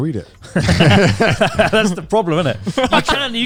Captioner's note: all laughing